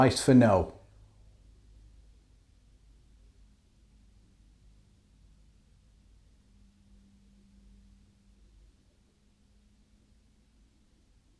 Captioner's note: silence